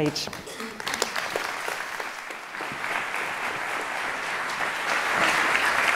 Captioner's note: applause